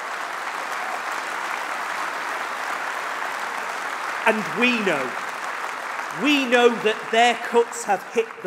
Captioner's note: applause